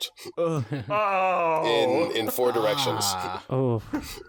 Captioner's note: 3W make noises of disgust